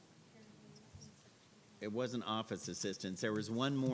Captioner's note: muffled background chatter